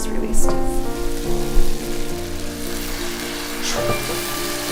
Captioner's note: millet sizzles